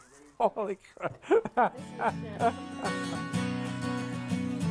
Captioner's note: laughing